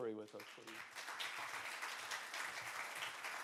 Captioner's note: applause